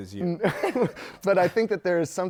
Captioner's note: laughter